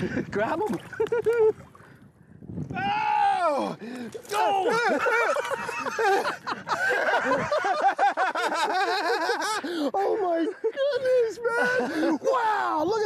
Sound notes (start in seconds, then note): 2.0 chuckle; 3.5 groan; 5.5 fish slapping; 7.5 both laughing